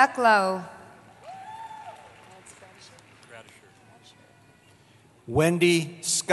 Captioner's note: cheering